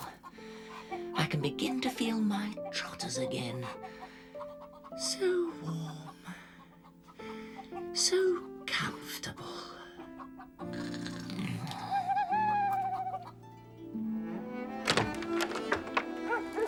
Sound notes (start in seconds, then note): 10.6 snoring; 14.8 door opens